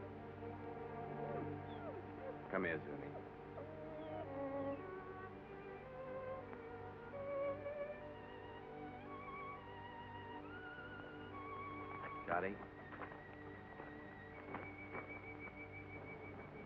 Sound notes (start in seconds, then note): 1.6 dog whimpers; 5.2 somber music; 13.8 somber music